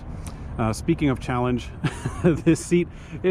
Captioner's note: laughs